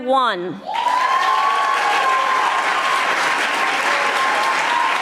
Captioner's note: audience applauding